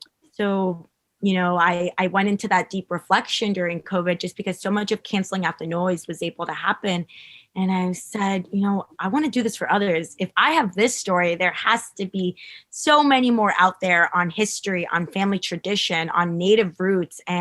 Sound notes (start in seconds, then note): none